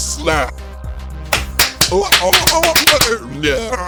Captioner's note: slapping